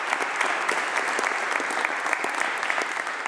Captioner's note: applause